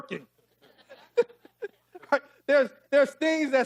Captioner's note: laughing